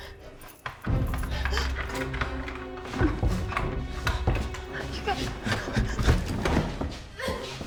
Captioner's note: suspenseful music; lock rattling